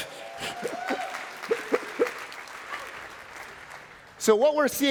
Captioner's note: applause